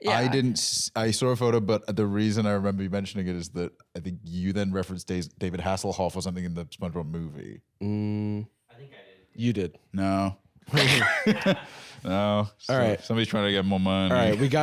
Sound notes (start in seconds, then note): 10.7 laughs